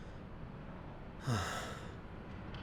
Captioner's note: sigh